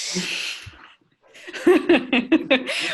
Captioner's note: laughter